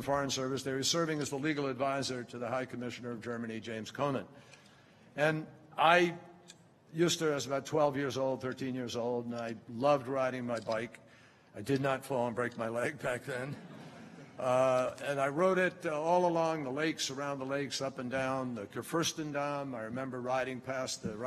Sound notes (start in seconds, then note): 13.5 laughter